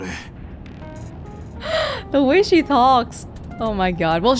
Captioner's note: exhales